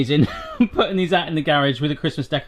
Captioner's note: chuckling